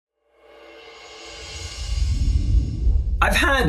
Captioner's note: air whooshing